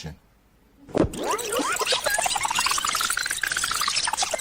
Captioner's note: tape squealing